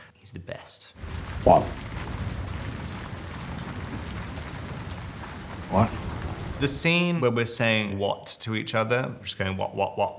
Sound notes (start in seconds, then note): 2.4 rain pattering